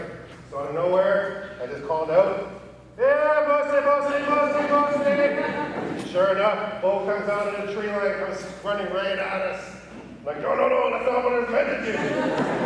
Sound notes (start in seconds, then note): 5.1 laughter